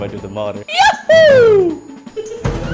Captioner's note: screams in italian